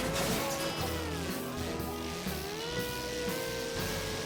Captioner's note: laid-back music; engines revving